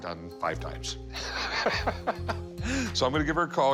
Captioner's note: laughs